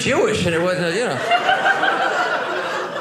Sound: audience laughing

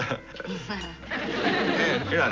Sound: Buzzy laughs; Ann fake laughs

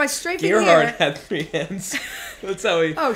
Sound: laughs

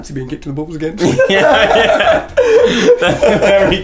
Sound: laughing

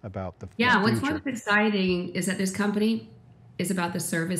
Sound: speaks faintly

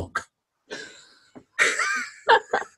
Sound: laughing

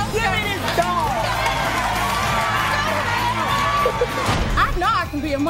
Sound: audience applauding; audience screaming

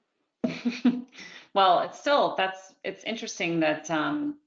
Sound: chuckles

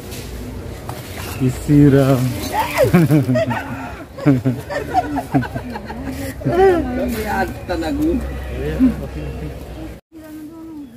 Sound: laughs

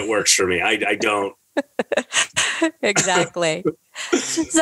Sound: laughter

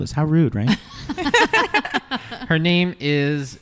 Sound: laugh

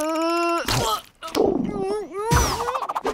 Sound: retching

